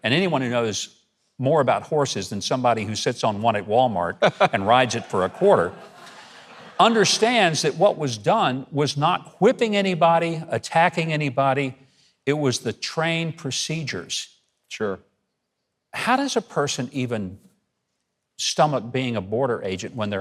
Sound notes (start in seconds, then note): 4.2 Mark laughs; 5.9 audience laughing